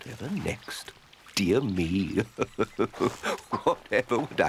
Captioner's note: chuckles